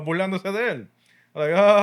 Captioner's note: non-english Speech